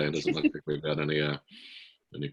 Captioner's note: laughs